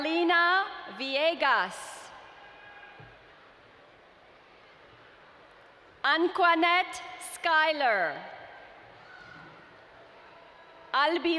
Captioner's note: cheering in background for the graduates